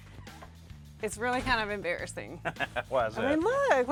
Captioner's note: laughs